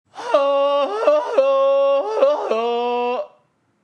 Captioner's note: imitating Tarzan